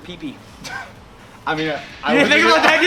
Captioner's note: laughs